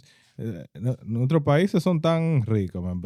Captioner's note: speaking In Foreign Language